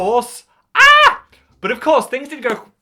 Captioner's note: yelping